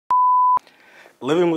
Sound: screen beeping

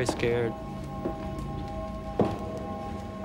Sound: footsteps

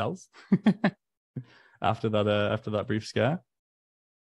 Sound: chuckles

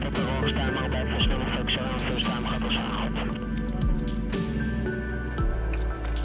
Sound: foreign Language

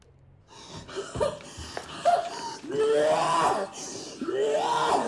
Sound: panicked retching

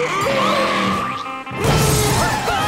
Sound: screaming

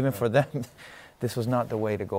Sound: chuckles

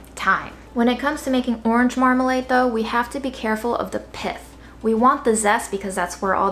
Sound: none

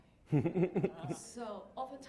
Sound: laughing

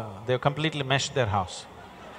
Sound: laughter

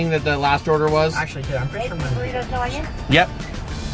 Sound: woman In Speakerphone

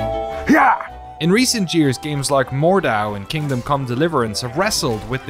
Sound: speaking normally

